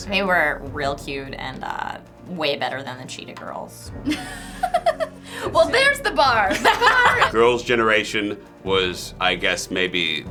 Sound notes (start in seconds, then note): 4.0 laughs